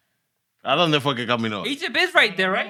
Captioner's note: speaking Spanish